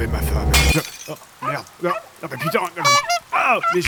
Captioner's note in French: Bruit de bouteille cassée puis aboiement; Klaxon cartoonesque